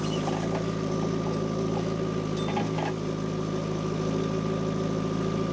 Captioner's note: tractor rumbling continues